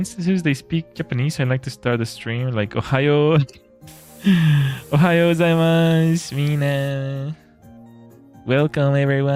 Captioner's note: laughter and gasps